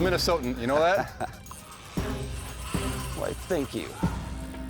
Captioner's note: laughs